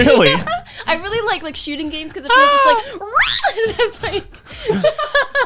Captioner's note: screams; laughing